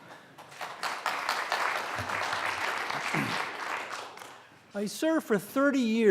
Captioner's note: applause